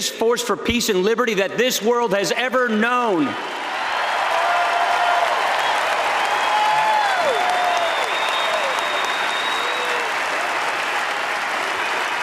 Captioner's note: applause